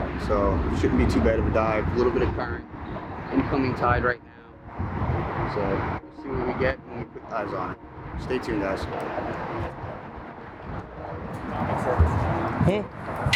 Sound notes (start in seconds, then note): 9.5 water waves rustling